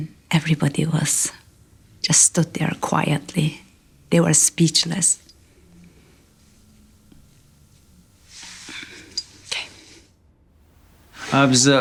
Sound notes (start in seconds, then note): 8.8 choked up